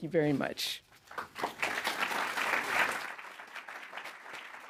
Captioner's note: audience clapping